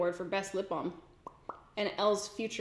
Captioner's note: lips smack